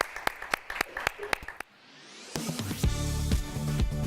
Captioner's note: applause